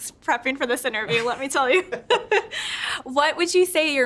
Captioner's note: both laughing